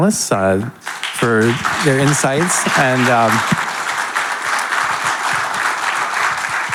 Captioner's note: audience applauding